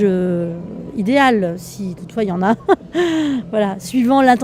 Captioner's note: laughs